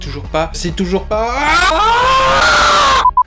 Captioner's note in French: hurlements